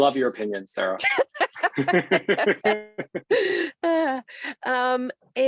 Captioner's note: laugh